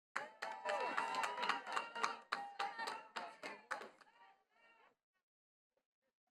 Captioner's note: attendees cheering and clapping